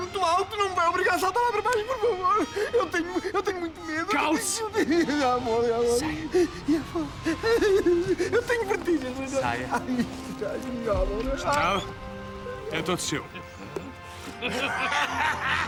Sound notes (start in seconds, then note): 5.9 whimpers; 14.1 chuckles